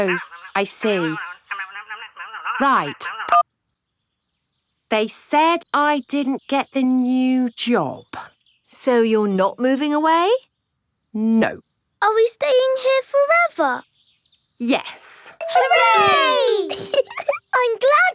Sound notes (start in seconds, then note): 4.0 beeps